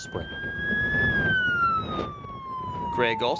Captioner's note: emergency sirens blaring